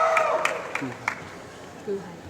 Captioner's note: applause